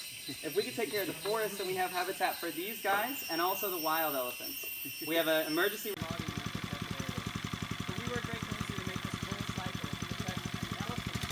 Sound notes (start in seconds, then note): 5.9 motor running